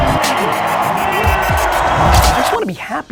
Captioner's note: crowd cheers